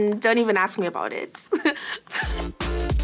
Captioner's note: laughs